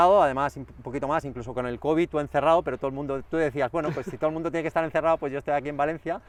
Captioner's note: laughter